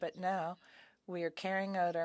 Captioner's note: speaking French